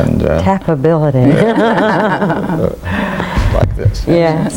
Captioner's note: everyone laughs